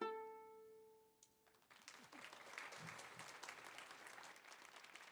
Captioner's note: audience applauding